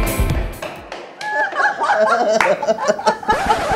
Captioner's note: laughing